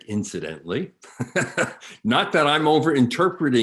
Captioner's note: chuckles